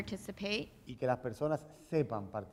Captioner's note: speaking in Spanish